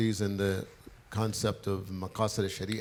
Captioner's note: speaks foreign language